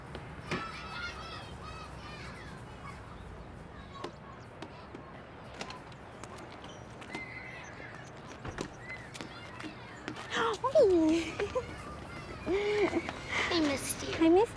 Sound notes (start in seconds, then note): 0.5 children laughing and shouting; 10.0 Alejandra shrieks